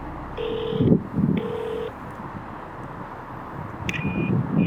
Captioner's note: phone ringing